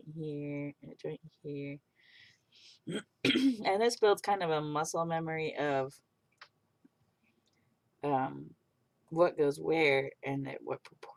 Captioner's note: clears throat